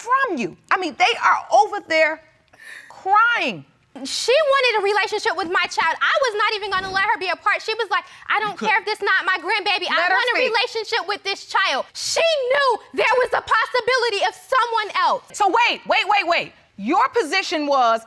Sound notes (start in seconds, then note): none